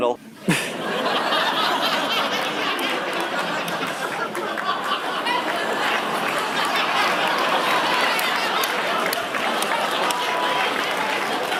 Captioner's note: laughter